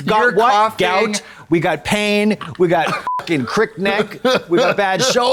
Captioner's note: beep